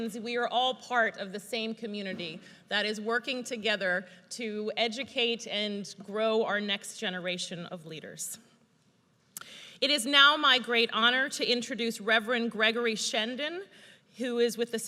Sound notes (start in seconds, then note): none